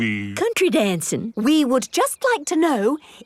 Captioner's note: none